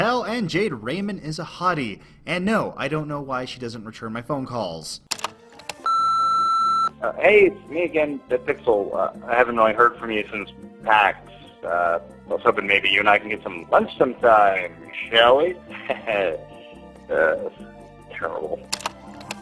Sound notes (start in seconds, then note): 5.8 answering machinie tone; 15.8 awkward Laughter